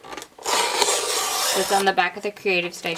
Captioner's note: paper slicing